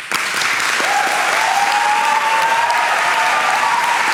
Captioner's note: applauses